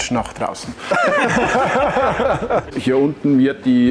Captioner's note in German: Gelächter